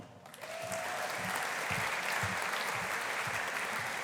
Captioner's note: audience applauding